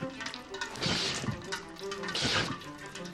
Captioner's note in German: Grunzen